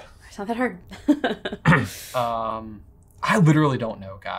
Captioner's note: chuckles